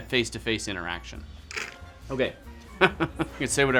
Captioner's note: slurps; chuckling